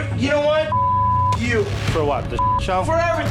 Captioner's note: beeps loudly; beep